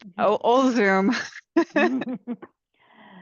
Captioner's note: laughter